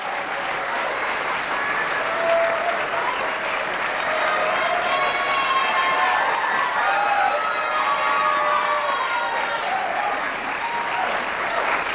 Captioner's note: applause